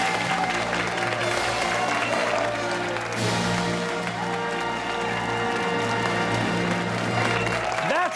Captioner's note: fanfare; cheers and applause